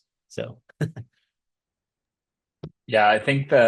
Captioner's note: chuckles